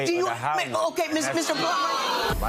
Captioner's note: audience jeers